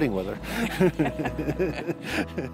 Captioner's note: laughter